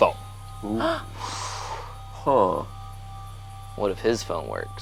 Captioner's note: inhales